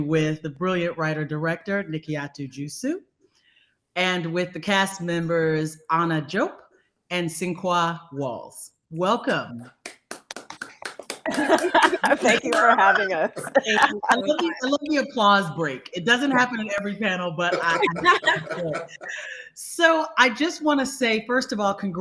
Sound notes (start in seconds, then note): 9.8 group applauds and laughs; 17.5 group laughing